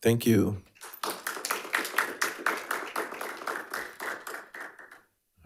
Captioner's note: attendees applauding